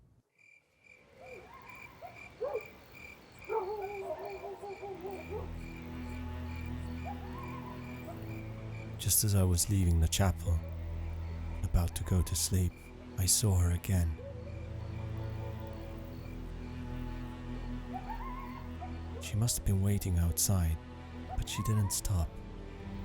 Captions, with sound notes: (insects chirping) (dogs barking) Just as I was leaving the chapel about to go to sleep, I saw her again. She must have been waiting outside but she didn't stop.